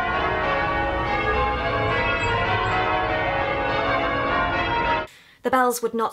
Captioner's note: bells ring loudly